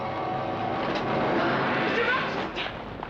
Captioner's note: eerie suspenseful music; flames crackling